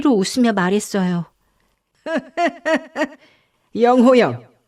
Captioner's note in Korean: 웃음